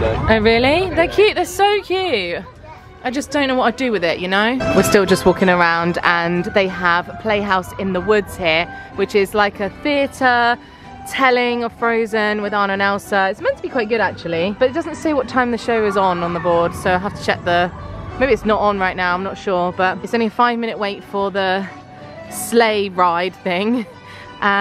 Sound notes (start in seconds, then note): none